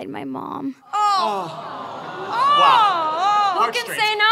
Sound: audience groans

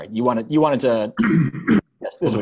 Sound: instructor clears throat

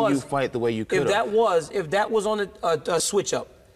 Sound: Daniel stuttering

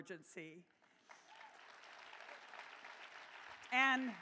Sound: applause

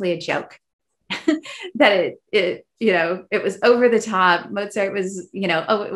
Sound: laughs

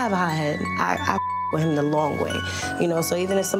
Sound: beeps

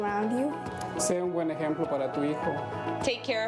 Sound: speaks a foreign language

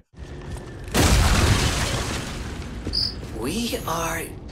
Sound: door smashes

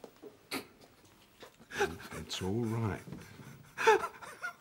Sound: sobs

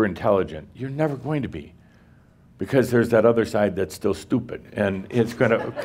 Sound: laughter

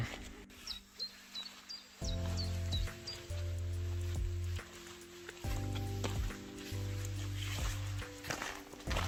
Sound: birds singing, silent music

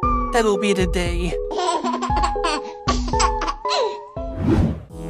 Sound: laughs

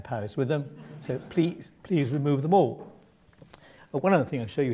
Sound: laugh

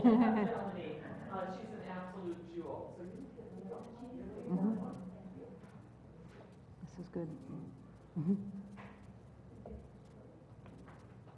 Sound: laugh

